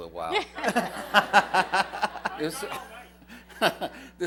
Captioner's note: laughter